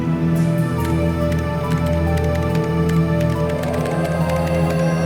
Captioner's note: keys clacking